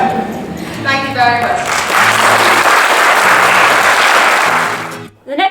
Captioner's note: audience applauds